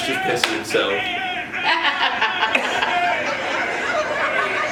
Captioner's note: laughs